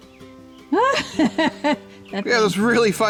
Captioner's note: laughs